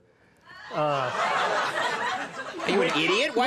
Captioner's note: audience laughs